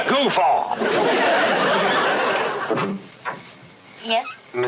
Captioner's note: audience laughing